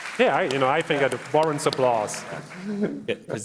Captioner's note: applause